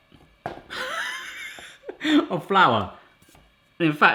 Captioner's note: he laughs